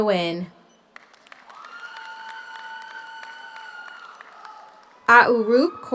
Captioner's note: audience applauds; audience cheers